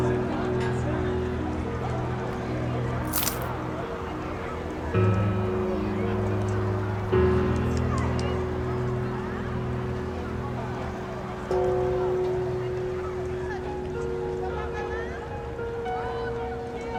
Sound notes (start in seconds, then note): 3.0 coins clinking; 11.3 gong more audible